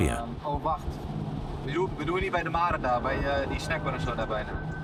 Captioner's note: Dutch spoken audio